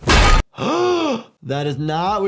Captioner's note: doctor gasps